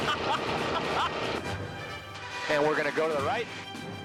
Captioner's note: laughs